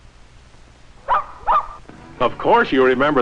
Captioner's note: barking